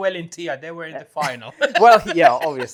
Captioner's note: laughs